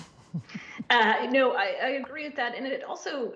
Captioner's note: laughter